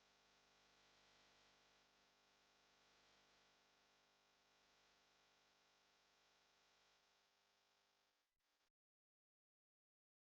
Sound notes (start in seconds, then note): none